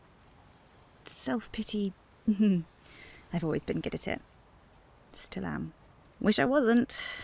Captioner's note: chuckles